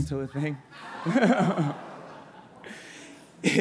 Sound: laughter

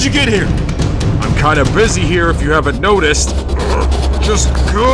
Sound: groans

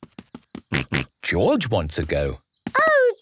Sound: snorts

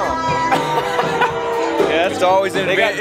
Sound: laughter

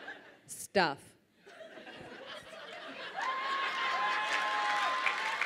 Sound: audience laughs

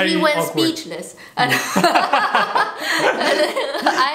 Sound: laughter

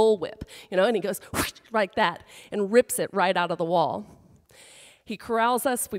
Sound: makes a whipping sound

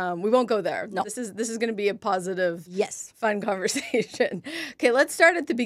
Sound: laughs

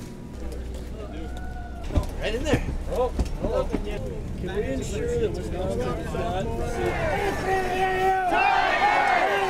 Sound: chatter on the bus

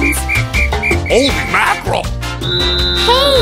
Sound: foghorn

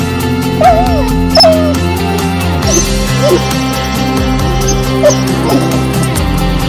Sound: crying mournfully

